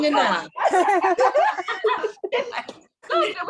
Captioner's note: group laughing